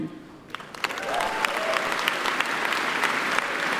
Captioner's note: applauding